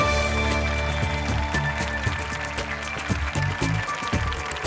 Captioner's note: applause